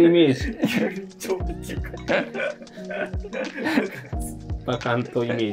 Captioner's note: laughing